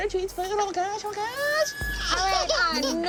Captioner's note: crying